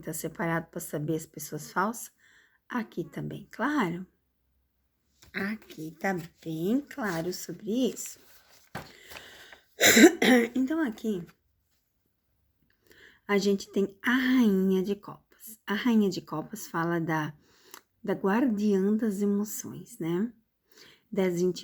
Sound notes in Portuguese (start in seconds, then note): 9.8 limpando a garganta